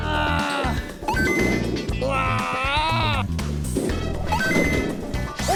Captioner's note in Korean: 기합소리와 함께 쌓여가는 참치